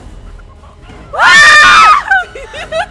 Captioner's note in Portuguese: gritam